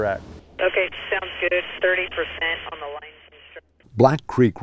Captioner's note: voice on a radio